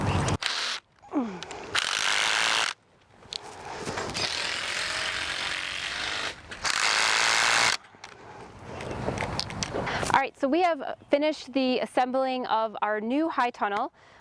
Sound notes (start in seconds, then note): 1.0 drilling